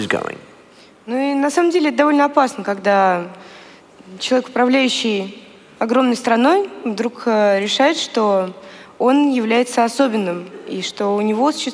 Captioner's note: foreign Language